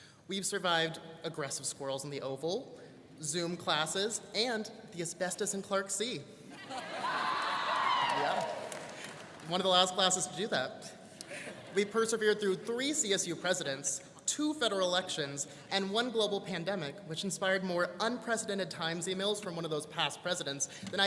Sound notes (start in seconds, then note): 6.5 students laughing and cheering